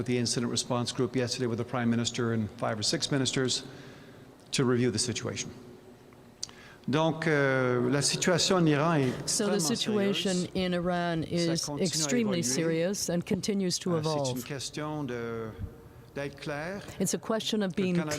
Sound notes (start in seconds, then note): 11.8 speaking French